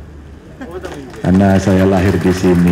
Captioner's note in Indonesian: tepuk tangan